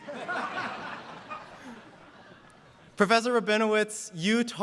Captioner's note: laughter